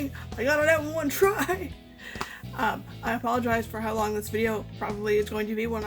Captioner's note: laughs